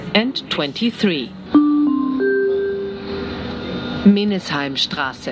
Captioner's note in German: Gong